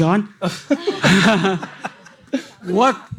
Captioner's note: audience laughing